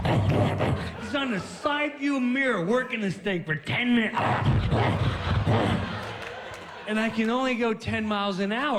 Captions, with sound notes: HE'S ON THE SIDE VIEW MIRROR WORKING THIS THING FOR TEN MINUTES. [growling] AND I CAN ONLY GO TEN MILES AN HOUR.